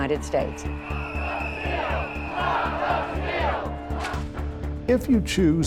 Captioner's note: crowd